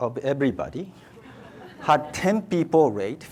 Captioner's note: audience laughs